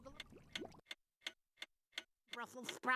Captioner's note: clock ticking